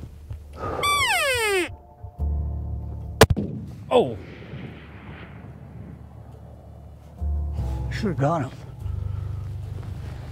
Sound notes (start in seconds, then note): 0.6 elk call; 0.9 gun firing